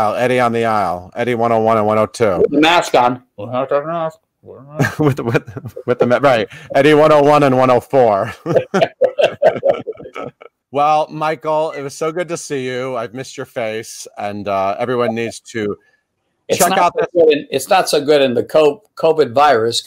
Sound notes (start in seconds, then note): 4.6 chuckling; 8.2 laughing